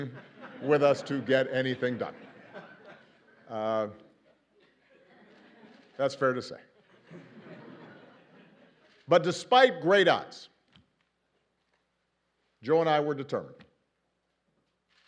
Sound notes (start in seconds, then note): 0.1 laughs; 6.7 laughter